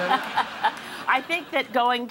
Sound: laughing

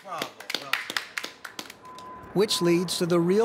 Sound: applauds

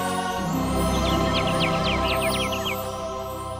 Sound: chirping

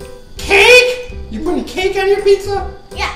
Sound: voiceover

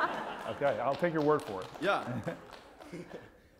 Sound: laugh

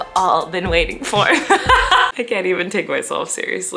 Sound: Colleen laughing

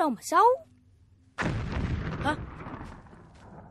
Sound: explosion sound

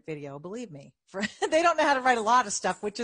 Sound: chuckling

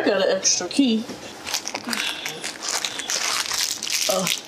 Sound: plastic crumbling

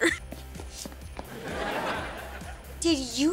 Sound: laughing

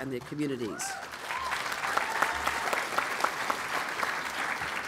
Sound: applause

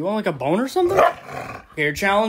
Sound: barks and growls

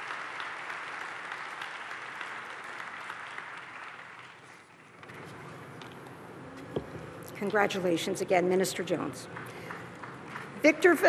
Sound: applause

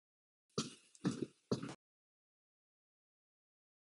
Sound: footsteps

